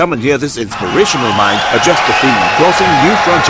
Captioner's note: wild applause and cheering for 22 seconds